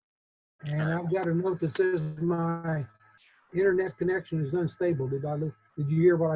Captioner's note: speaks faintly